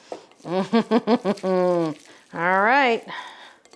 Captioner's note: laughs